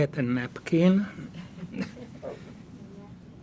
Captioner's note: laughing